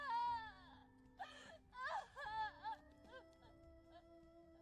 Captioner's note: cry